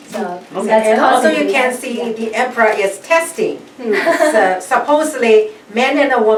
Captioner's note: laughs